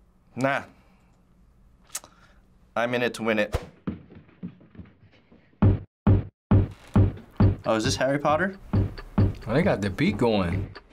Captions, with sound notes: - Nah. I'm in it to win it. (rhythmic thuds) - Oh, is this Harry Potter? (rhythmic switch clicking) - Oh, they got the beat going.